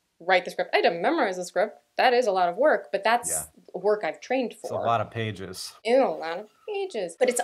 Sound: goofy voice

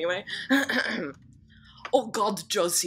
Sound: clears throat

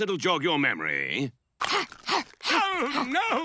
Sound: grunting

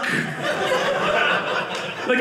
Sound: audience laughing

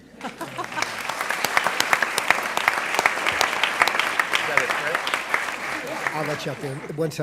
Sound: applause

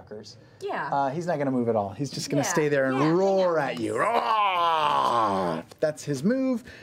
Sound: roars

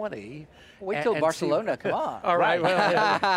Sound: laughs

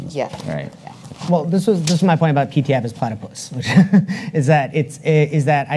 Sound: chuckles

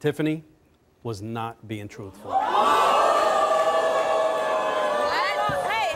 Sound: audience gasps

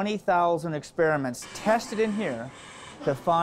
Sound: machines buzzing

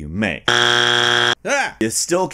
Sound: loud buzzer sound

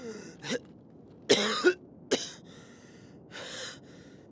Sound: coughing continues

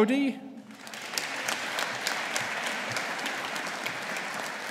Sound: audience applauding

